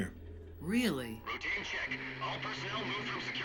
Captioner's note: distorted over comms